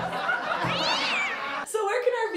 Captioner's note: cat screech